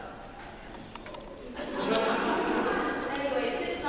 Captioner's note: laughter